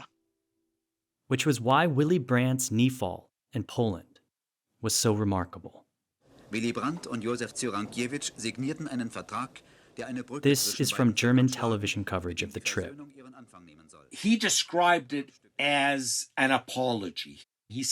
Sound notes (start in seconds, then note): 6.6 soundbite of archived recording; 9.5 speaking German